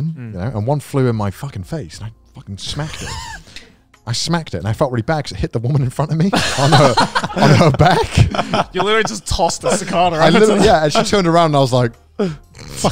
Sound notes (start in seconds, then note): 6.3 everyone laughs